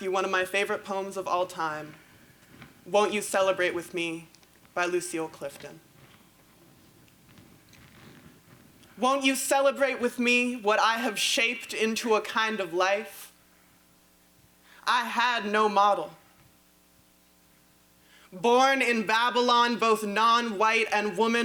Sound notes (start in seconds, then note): none